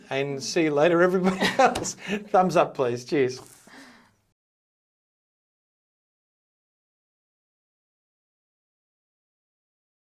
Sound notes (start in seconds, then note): 1.2 chuckling; 4.6 chuckling